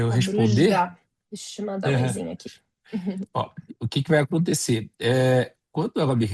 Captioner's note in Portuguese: limpando a garganta